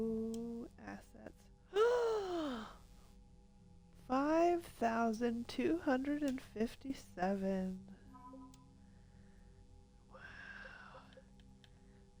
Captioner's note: gasp